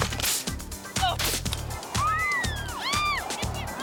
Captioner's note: children screaming